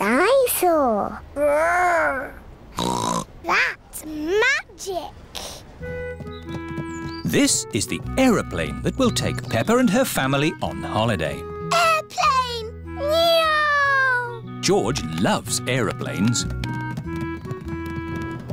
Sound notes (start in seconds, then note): 2.8 snorts